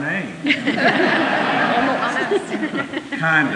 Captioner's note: laughter